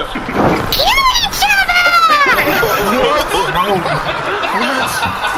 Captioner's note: screaming